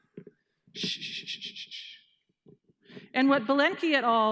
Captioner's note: shushing